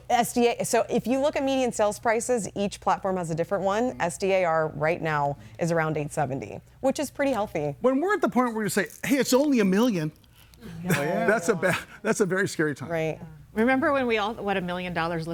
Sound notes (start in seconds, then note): 10.6 laughs